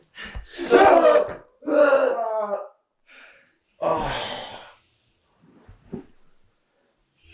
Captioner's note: knife slashes; Brian groaning